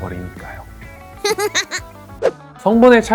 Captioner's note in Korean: 웃음 참는 중